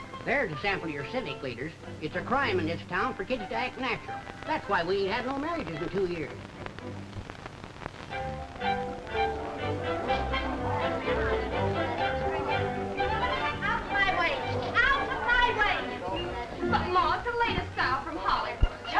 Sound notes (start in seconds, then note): 0.0 gentle music; 8.2 upbeat music; 8.6 group chattering